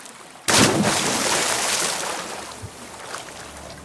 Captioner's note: splashing sound